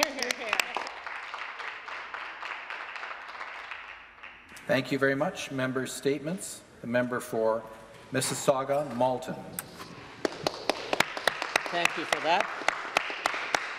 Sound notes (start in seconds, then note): 4.4 applause